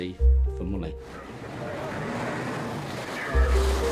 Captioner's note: water whooshing; waves crashing; pensive music